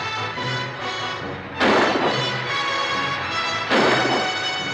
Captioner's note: gun firing